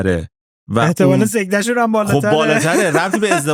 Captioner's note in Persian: خنده